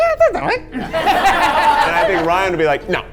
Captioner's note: all laughing